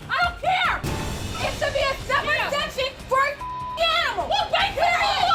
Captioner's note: beep